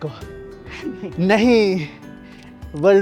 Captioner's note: laughs